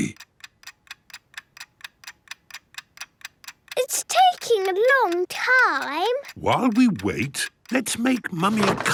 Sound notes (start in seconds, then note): 1.7 ticking